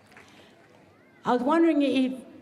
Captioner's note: cheering and applause